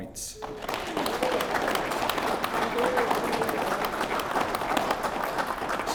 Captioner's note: applause